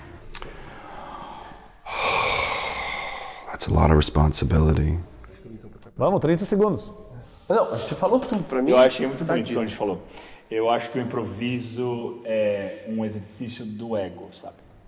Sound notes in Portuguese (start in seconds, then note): 0.3 Suspiro